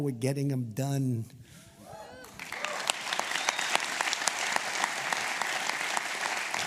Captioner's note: applause